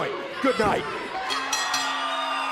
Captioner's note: bell ringing; crowd cheering